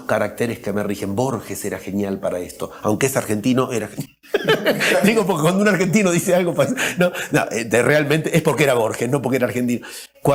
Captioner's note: risas